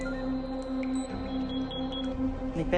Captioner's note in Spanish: Pitidos